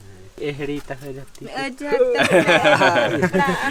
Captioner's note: speaking in foreign language; laughing